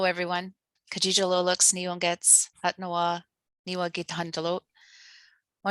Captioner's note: speaking in foreign language